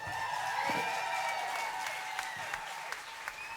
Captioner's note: applause